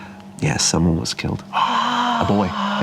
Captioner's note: whispering exclamations